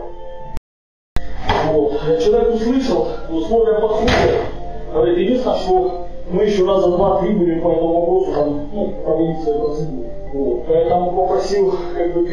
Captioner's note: speaks on the phone